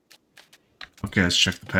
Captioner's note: silence